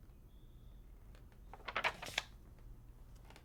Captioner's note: paper rustles